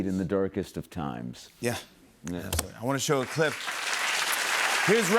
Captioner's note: applause